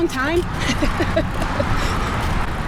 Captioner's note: laughter